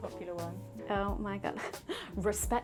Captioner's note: laughs